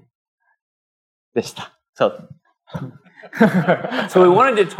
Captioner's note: speaking japanese